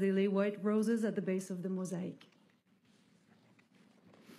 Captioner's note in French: voix de l'interprète